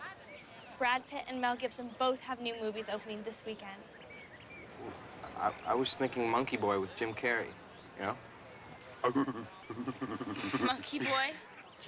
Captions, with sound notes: BRAD PITT AND MEGIL BSON BOTHAV HE NEW MOESVI OPENING TH WISEENDKE. WELL, I WAS THINKING MONKEY BOY WITH JIM CARREY. YO U KNOW? ( hooting ) MONKEY BOY?